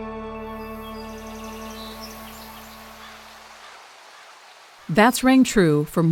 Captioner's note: birds chirping; water rushing